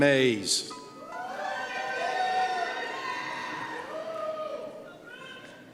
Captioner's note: cheers